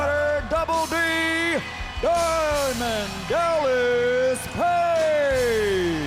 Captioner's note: crowd cheering